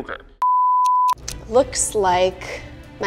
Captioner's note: beep